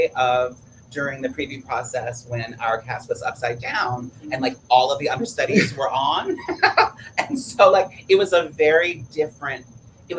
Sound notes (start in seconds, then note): 6.2 laughs